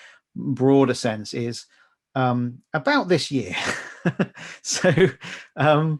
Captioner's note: laughing